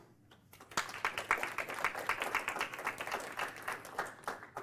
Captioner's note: applause